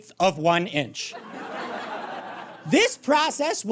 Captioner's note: audience laughs